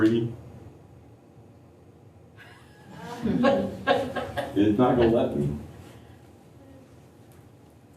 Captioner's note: laughter